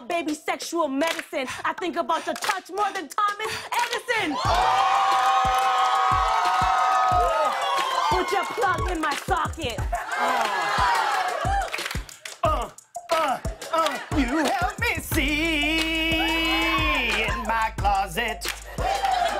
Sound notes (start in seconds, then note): 3.7 audience "Ohs"; 4.2 cheers and applause; 9.5 laughter; 17.4 laughter